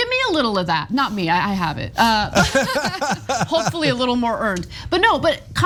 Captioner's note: laugh